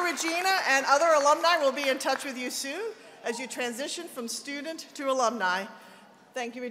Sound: applause

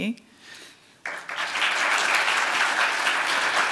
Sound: applause

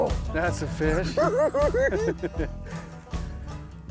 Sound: giggling

